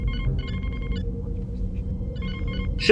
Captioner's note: alarm